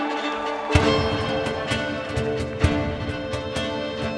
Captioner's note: audience cheering